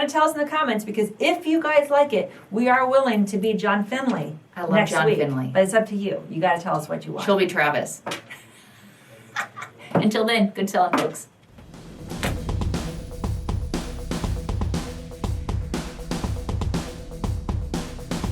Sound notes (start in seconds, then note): 9.3 both laugh; 11.5 upbeat music